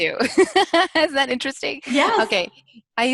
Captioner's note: laughs